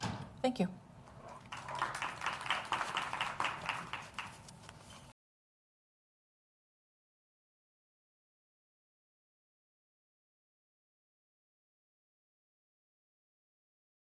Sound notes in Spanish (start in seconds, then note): 1.3 aplausos